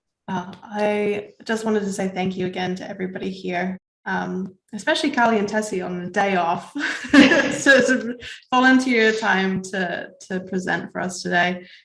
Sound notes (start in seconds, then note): 6.8 laughs